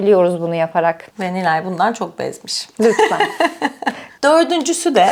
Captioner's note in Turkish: kahkaha